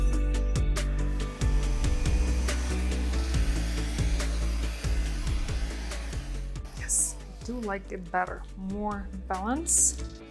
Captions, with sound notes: (blower hissing) Yes, I do like it better. More balance.